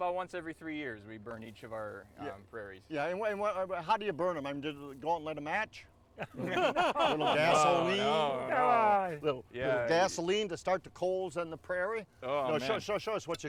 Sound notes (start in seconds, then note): 6.2 all laughing